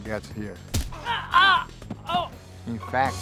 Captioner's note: punching sound